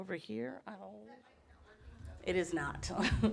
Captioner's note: audience speaking faintly